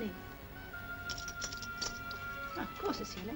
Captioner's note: jewelry jingles